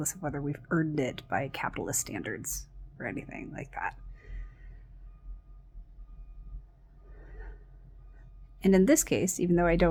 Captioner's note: vehicle beeping